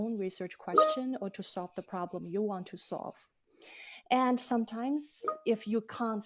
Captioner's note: phone dings